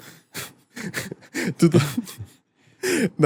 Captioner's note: laughs